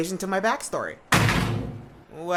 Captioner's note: door slam